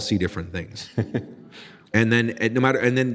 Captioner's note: laughing